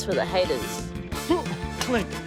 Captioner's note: grunts